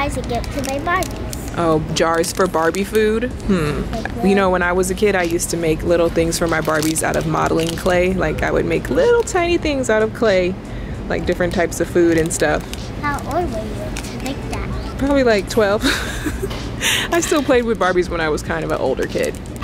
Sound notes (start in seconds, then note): 15.7 giggles